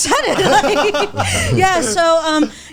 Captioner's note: all laughing